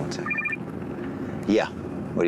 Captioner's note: phone rings